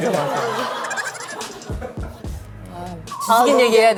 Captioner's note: hahaha